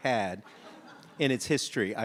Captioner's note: audience laughs